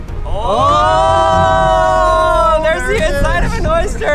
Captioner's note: exclaiming in unison